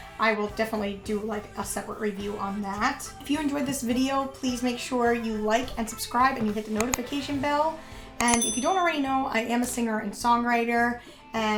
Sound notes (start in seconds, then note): 8.2 dinging